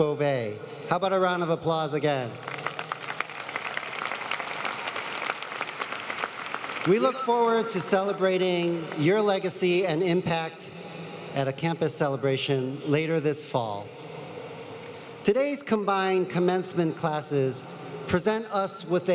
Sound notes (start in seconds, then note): 9.1 applause